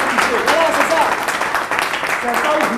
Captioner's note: cheers